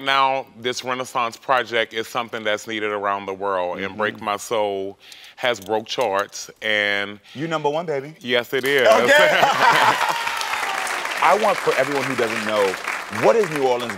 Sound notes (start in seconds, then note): 8.9 audience applauds